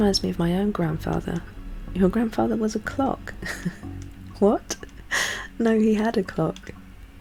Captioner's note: laughs